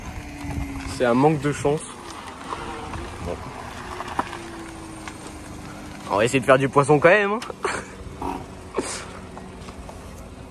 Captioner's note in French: rire